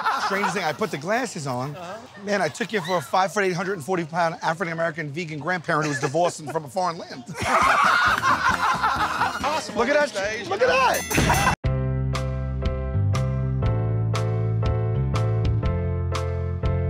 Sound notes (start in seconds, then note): 0.0 laughter; 7.2 laughter; 10.9 ding!; 11.2 laughter